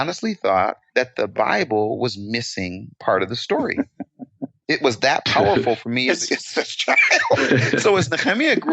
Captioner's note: laughing